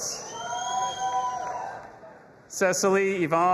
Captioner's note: audience applauding and cheering